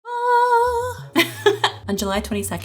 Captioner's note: laughing